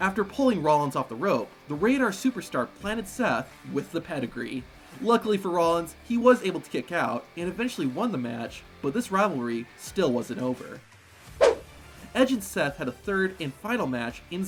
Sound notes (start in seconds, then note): 10.7 rock music continues; 11.4 screen whooshes